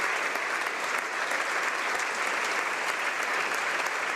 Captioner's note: applause